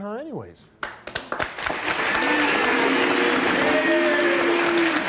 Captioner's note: audience clapping